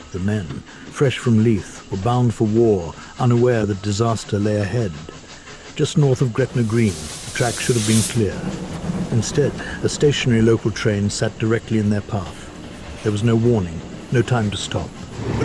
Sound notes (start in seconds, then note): 6.8 steam hisses